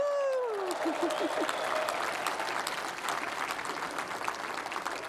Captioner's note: applause